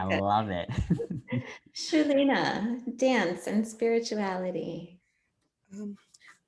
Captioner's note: laugh